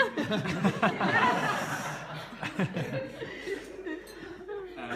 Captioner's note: laughter